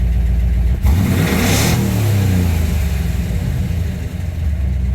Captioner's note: throaty Engine Sounds